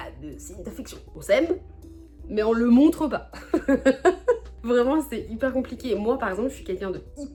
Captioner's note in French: rires